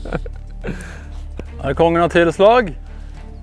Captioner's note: giggle